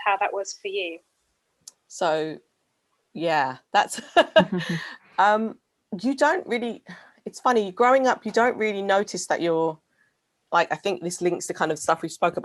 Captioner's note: laughing